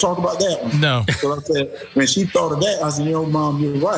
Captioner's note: laugh